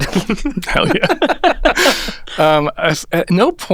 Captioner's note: laughing